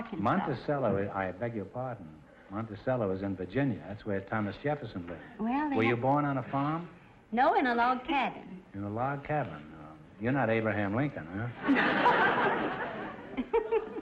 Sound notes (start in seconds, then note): 11.6 audience laughter; 13.2 laughing